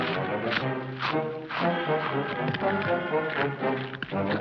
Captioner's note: monster growls; monster chomping